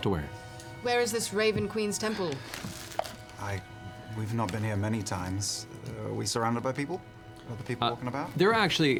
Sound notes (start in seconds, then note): 3.7 sighs